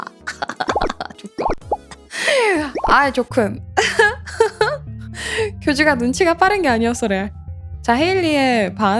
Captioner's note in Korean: 웃음